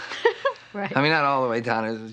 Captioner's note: chuckles